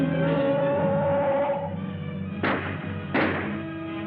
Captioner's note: gun hums